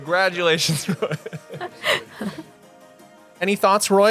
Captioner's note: 笑聲